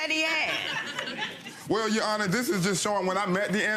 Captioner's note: audience laughing